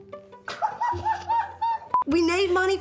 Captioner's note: giggles